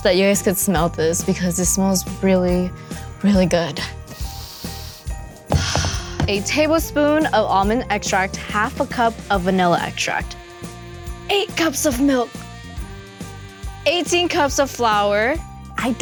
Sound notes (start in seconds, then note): 4.2 air exhaling; 4.9 sniffs